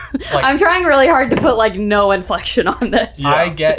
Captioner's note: laughing